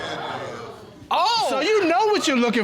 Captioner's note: audience exclaiming